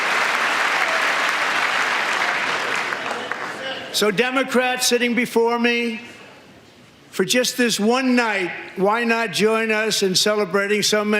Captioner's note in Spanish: aplausos